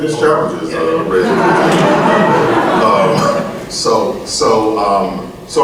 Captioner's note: audience laughs